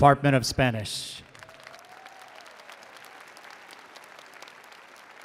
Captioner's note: attendees applauding